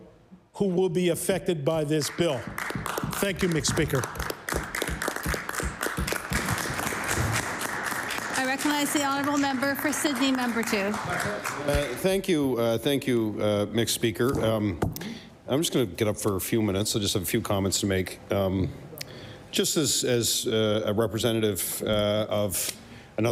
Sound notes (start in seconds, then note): 7.5 applause